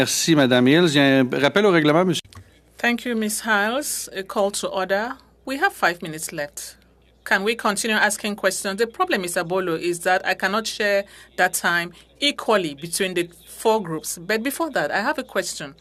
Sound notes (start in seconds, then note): 5.2 speaking French